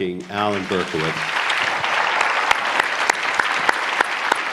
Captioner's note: applause